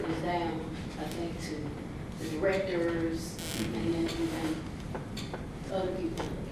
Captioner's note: softly talks off mic